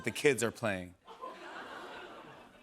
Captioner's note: light laughter